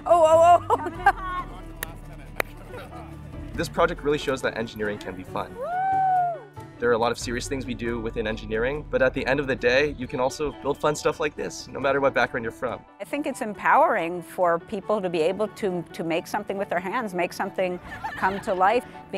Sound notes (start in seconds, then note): 1.7 claps